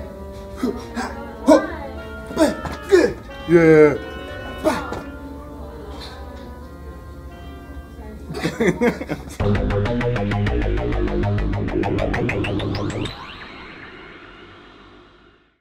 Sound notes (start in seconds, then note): 8.3 laughing